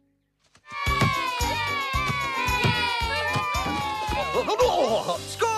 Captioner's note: children Cheering